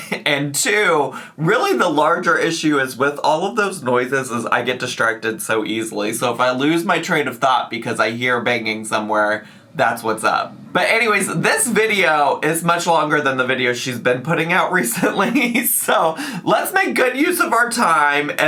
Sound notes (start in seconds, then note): 15.0 laughs